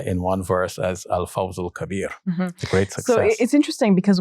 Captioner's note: speaking in foreign language